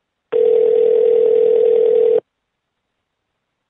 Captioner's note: phone ringing